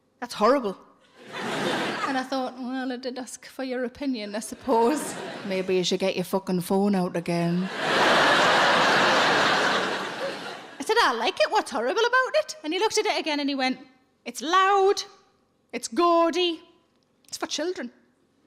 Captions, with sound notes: "That's horrible." And I thought, well, I did ask for your opinion, I suppose. Maybe you should get your fucking phone out, again. (audience laughing) I said, "I like it, what's horrible about it?" And he looked at it again, and he went, "It's loud, it's gaudy, it's for children."